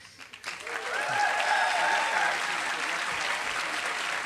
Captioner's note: applause